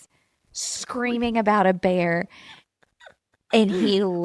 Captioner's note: laughs